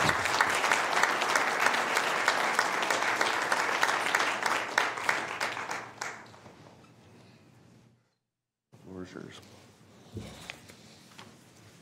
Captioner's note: applause